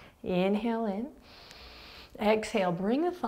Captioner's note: inhaling